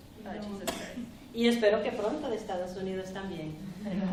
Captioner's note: speaking spanish